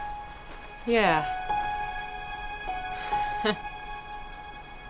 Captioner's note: laughing